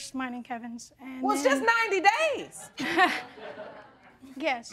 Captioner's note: laughing